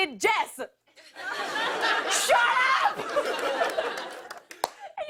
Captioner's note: laughter